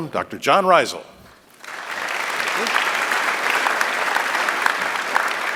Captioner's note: applause